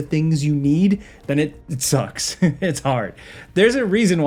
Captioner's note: laughing